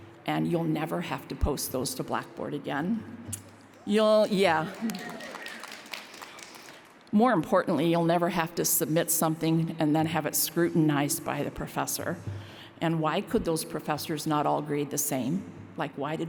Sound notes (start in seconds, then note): 4.1 cheering and applause